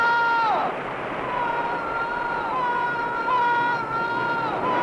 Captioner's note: voice echoing